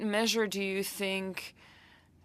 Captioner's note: speaking French